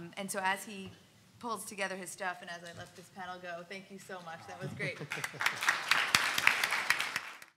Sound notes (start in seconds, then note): 5.0 audience applauds